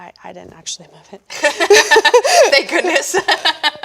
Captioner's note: laughing